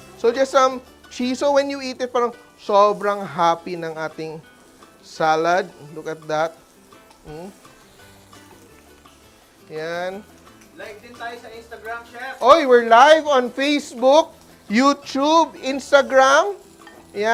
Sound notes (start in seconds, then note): 6.6 sizzles; 14.3 sizzles; 16.6 sizzles